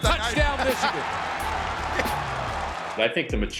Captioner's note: crowd cheering; announcer 2 chuckling